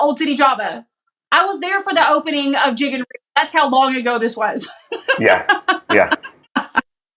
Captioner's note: laugh